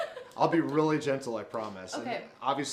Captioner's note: laughs nervously